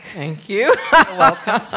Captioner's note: laughter